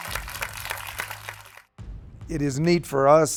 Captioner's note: clapping